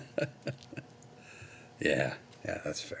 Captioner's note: Carver laughing